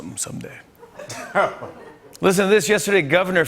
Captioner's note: laughter